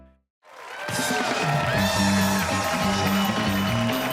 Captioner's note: cheers and applause